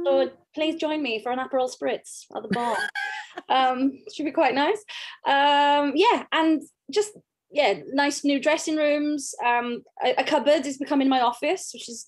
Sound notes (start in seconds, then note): 2.5 laughs